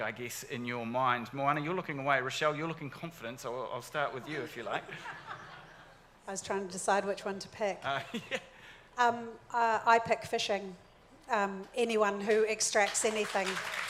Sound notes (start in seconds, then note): 4.2 audience laughing; 8.3 laughs; 12.7 audience clapping